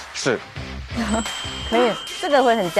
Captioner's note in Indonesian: Tertawa